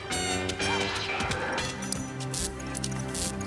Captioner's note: electrical crackling